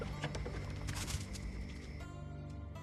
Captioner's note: none